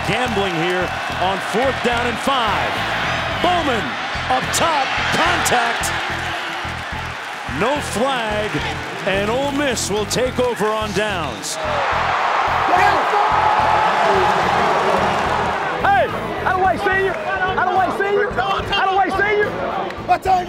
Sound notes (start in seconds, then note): 11.9 cheering